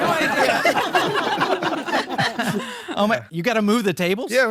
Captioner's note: all laughing